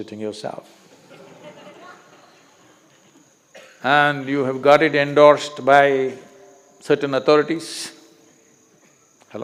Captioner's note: few laugh